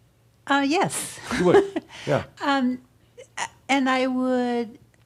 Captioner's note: she chuckles